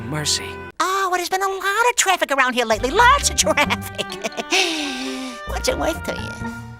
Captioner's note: snickering